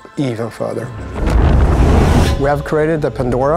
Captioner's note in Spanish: rugido